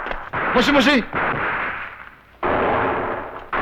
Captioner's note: non-english speech